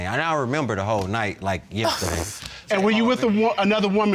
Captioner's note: sighs in frustration